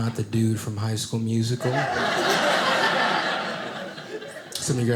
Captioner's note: audience laughing